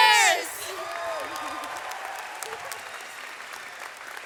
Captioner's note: audience applauds